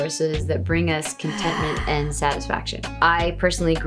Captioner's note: loud sigh